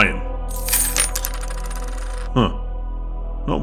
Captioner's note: iron drops on table